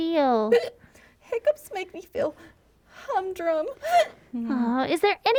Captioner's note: hic